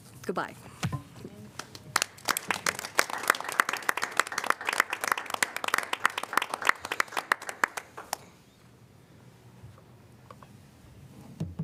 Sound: applause

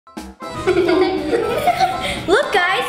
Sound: giggling

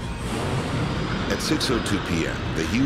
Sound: plane passing

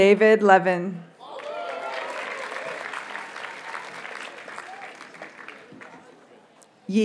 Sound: audience cheers and applauds

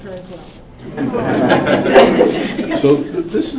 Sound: laughing

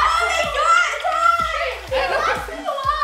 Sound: screaming

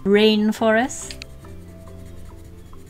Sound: more pencil scratching

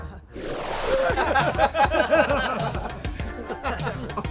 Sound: laughing

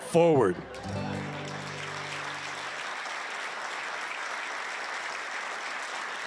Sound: applause

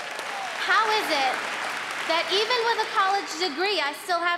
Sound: applause

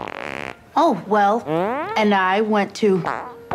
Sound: farts; farts

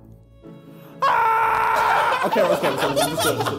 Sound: Harry yells

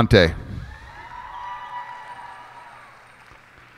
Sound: cheers and applause

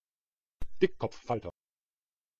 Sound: fast Pronunciation

